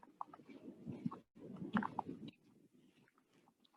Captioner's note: wind gusting